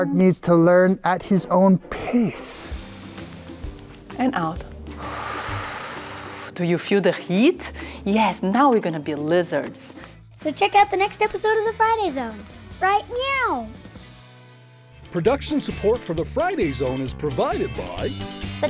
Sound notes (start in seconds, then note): 2.9 deep breath